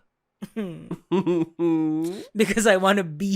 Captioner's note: chuckling